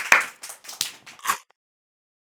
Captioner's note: clap!